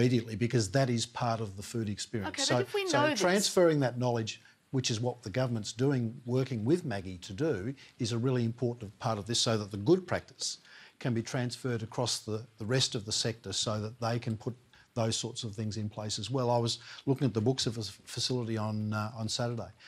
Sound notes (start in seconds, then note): none